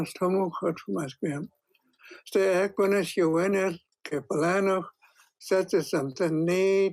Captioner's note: speaking in hən̓q̓əmin̓əm̓